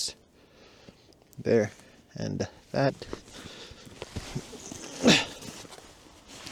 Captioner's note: grunts